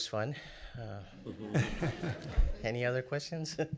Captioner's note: laughing